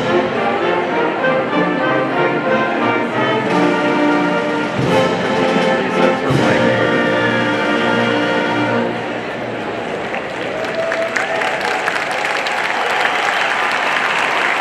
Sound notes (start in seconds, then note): 9.6 people clapping